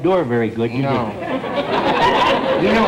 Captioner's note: audience laughter